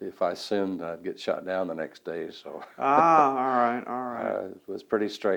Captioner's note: laughs